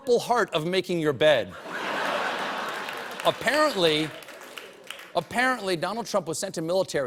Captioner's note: laughter